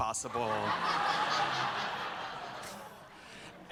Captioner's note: laughter